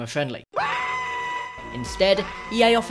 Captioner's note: screaming